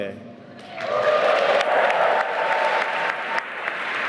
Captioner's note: applause